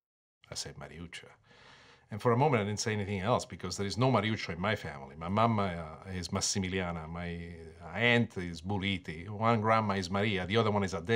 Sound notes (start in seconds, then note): 7.4 speaking in foreign language